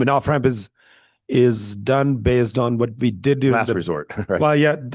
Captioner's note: laughs